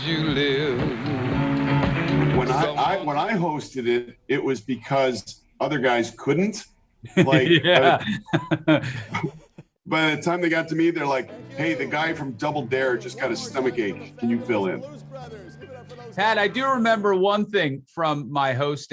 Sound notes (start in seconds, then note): 10.6 laughing